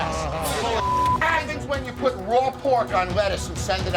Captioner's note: beep